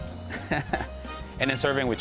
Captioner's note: laughs